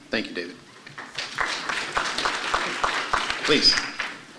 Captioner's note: applause